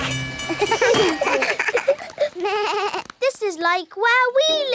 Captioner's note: all laugh